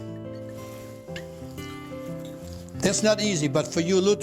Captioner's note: oil pouring